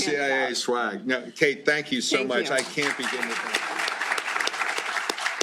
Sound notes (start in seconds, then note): 2.5 applause